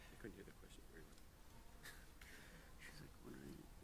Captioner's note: panel whispering